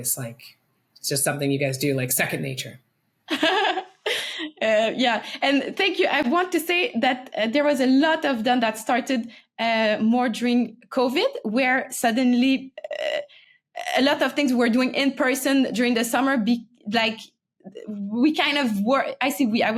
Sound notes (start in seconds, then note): 3.3 person laughing